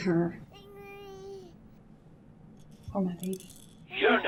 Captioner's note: baby cooing